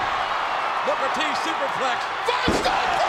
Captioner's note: body thudding; crowd cheering